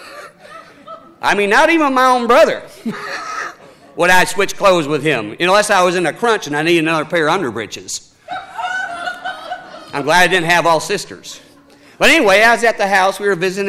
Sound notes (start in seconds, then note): 0.0 laughing; 8.2 audience laughing